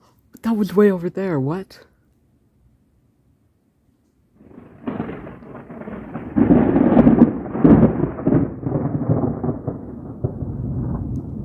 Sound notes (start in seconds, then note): 4.4 thunder starts; 6.2 louder thunder crackles; 10.7 thunder gets deeper